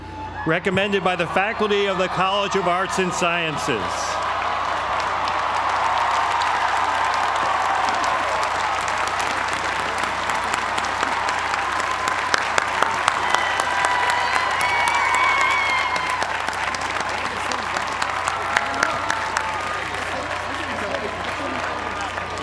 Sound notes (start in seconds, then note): 4.2 applause